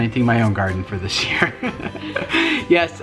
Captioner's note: laughing